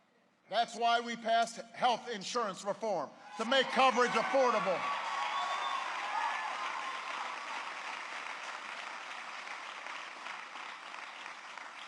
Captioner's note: applause